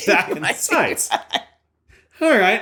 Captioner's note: laughter